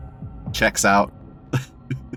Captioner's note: chuckles